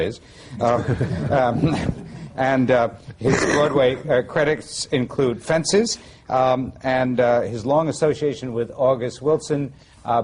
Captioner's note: laughter